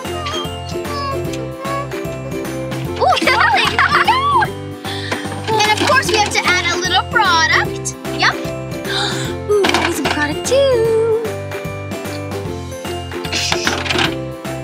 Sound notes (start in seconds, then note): 0.0 hums; 0.0 upbeat playful music; 3.7 squeals; 8.8 gasps; 11.4 upbeat playful music; 13.3 box clacks